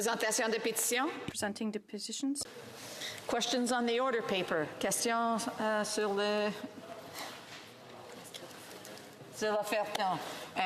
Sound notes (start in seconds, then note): 4.7 speaking French